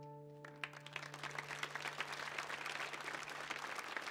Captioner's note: audience applauds